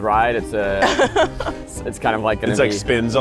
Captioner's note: laughs